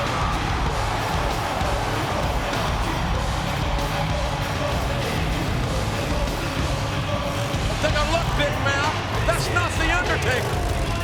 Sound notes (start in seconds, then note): 5.5 engine rumbling